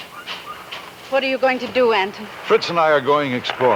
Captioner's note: wind howling